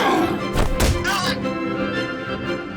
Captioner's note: grunts